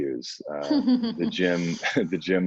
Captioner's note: laughing